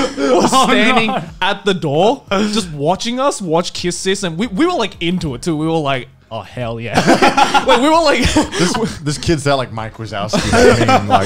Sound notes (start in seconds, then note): 7.0 laughing